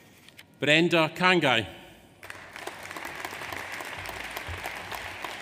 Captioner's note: audience applauds